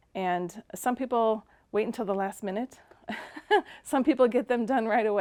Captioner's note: laughing